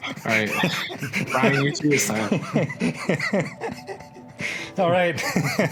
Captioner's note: both laughing